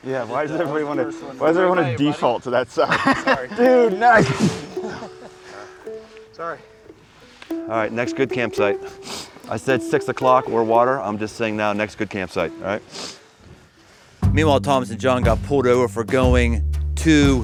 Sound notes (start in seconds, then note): 5.2 chuckling